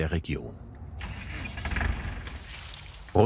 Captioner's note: engine starts